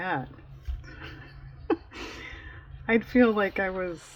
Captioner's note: laughs